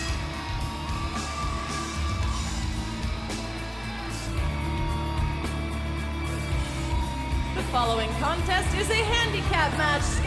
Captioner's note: bell ringing